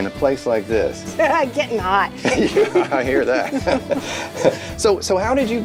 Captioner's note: laughs